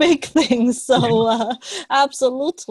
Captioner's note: laughs